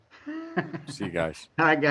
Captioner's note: laughing